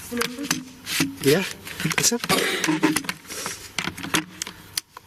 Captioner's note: clicking